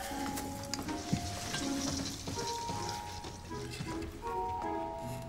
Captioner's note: ornaments rattling